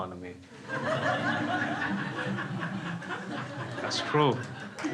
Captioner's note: crowd laughs